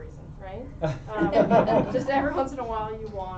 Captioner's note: laughter